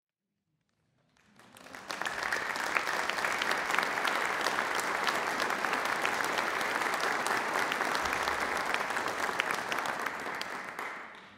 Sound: applause

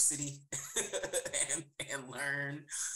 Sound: laughs

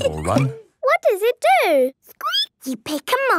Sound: squeaking

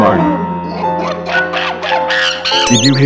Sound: monke Cries

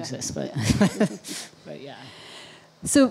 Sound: laughs

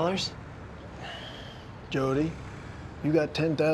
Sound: sighs

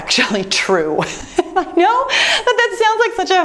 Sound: laughing

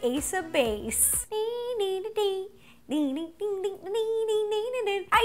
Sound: humming

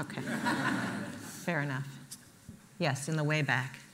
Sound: laughter

